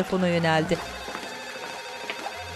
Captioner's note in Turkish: Fonda Alkış sesleri